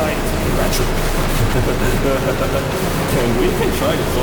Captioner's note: laughter